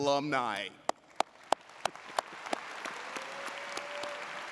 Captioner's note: audience applauds